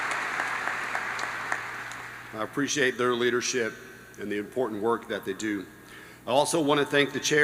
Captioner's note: applause